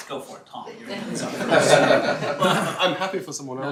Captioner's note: laughter